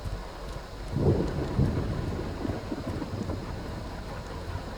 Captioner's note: now only thunderstorm continues